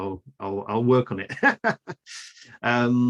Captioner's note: laughs